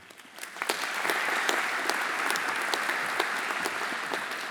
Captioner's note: audience applauding